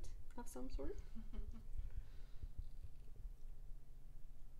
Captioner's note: laughing